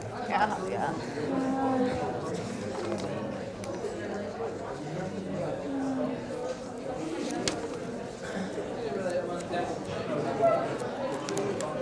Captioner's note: audience chatter